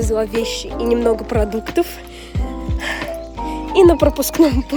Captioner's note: sigh